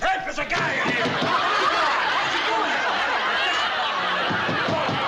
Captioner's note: knocking